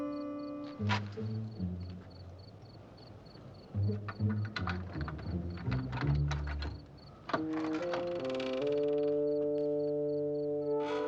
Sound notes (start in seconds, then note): 7.0 creaking